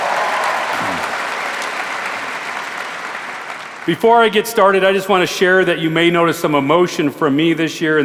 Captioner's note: applause